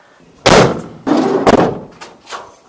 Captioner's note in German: türen schliessen